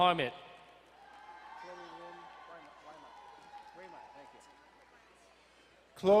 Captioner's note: crowd cheering and applauding